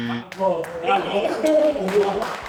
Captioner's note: clapping